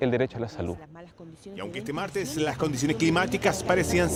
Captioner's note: overlaid radio news reports